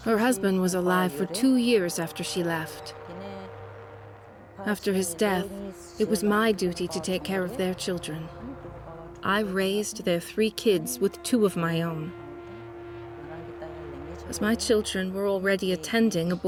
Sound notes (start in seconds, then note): 12.8 speaks foreign language